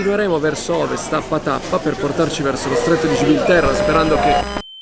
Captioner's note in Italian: interferenze